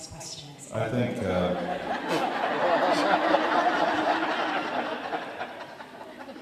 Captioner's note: audience laughing